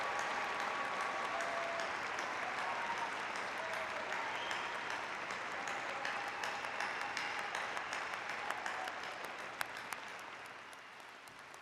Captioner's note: cheers and applause